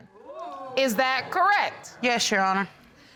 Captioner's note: audience exclaiming